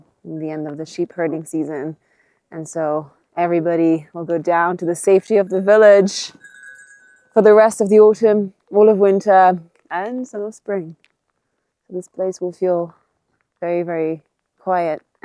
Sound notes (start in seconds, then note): 5.2 sheep bell clanging